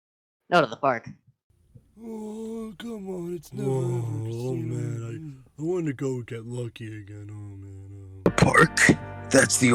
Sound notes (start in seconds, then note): 1.9 general old man grumblings of disapointment